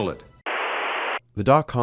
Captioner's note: static